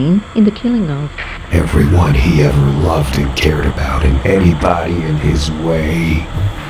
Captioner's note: static